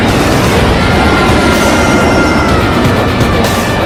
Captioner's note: engine roaring